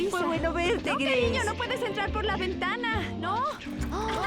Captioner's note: giggling